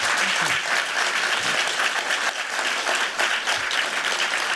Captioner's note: applause